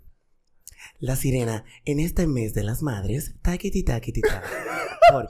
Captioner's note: laughs